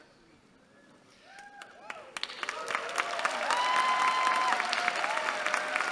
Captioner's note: cheering